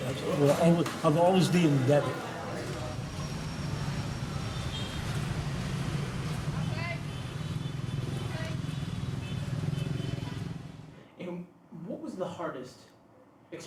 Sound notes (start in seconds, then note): 6.8 cars driving and honking